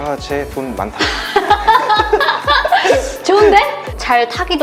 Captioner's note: laughter